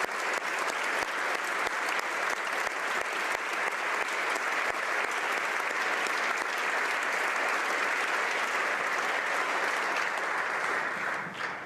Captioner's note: applause